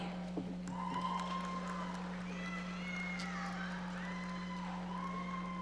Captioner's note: audience applauding